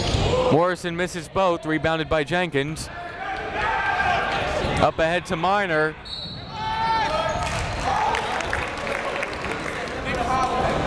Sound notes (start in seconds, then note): 6.0 whistle; 7.4 clapping